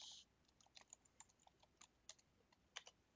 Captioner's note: typing